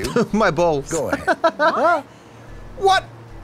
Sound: laughs

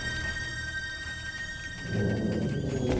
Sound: squealing

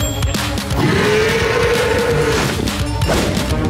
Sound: growling

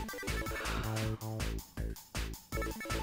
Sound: sighs

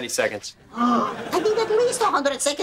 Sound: gasping

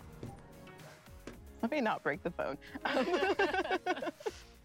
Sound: laughter

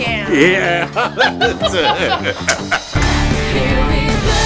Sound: laughter

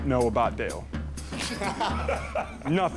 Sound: laughter

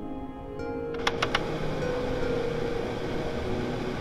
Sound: the filter whirs to life

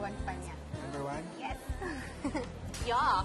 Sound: chuckles

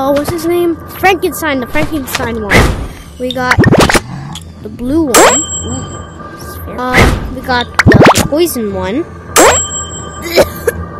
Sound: coughs

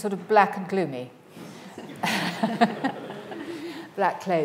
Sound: audience laughing

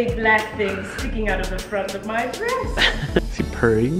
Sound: laughs

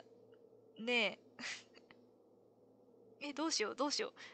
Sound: laughs

